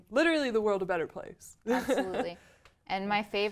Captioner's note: laugh